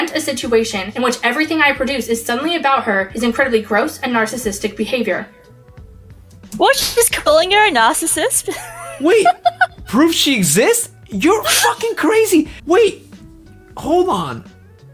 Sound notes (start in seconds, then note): 7.8 laughs